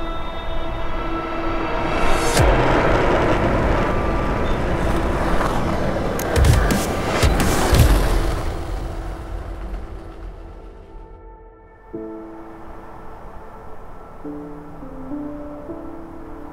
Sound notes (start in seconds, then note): 3.4 skateboard rolling; 5.9 camera shutter; 11.6 gentle music